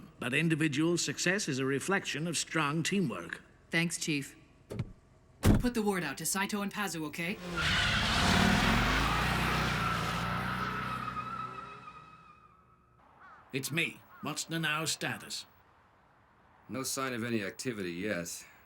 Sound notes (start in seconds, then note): 5.5 over comms; 7.3 tyres screeching; 13.7 over comms